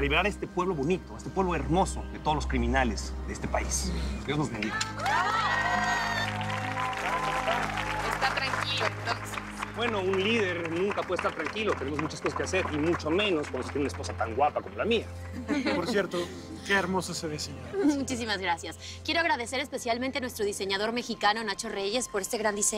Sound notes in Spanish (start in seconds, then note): 5.4 Aplausos; 15.3 Risas